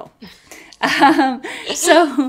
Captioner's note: both laugh